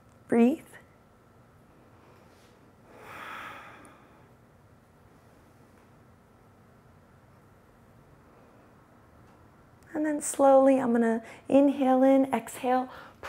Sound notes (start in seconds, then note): 2.8 inhales and exhales